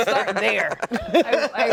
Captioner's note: laughter